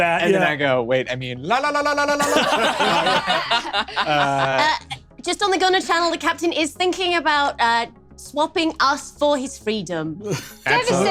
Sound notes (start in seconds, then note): 2.1 laughs